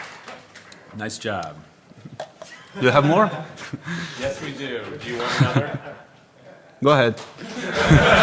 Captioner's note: applause